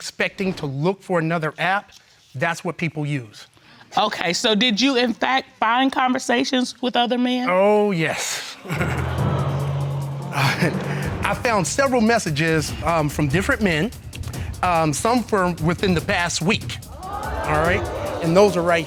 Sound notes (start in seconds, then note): 8.5 laughs; 8.6 courtroom exclaiming